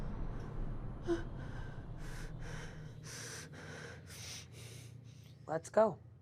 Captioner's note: Maria breathing heavily